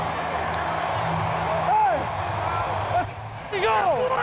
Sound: crowd cheering; indistinct chatter from players

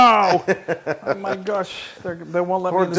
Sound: laugh

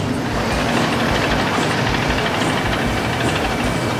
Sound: machine whirrs

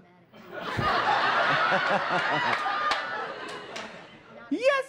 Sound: laughter

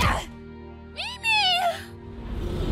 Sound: grunts

